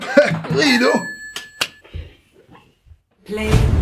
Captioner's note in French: Clap Clap